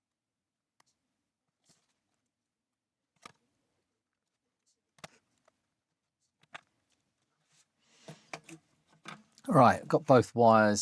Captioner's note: silence